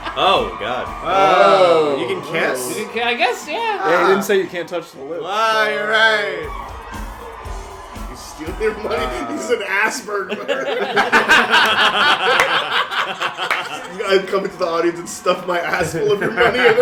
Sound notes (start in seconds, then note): 13.0 laughter; 16.0 laughter